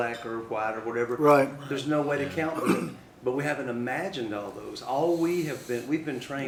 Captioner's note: sound of someone clearing throat